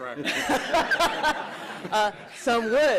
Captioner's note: laughter